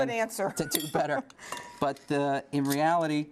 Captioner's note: laughter